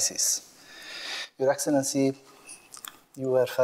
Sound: foreign language

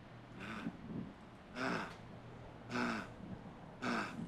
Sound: panting

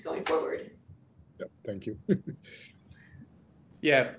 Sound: laughs

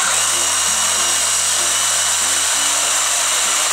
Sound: more sawing

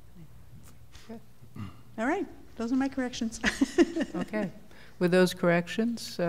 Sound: laughter

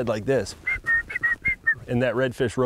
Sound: loud whistling

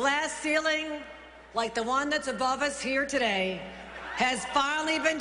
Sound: cheering

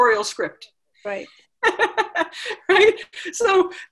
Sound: laughs

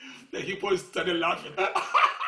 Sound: laughing

